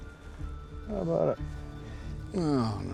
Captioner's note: scottish accent